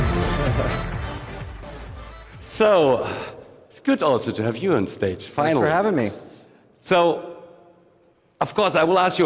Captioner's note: applause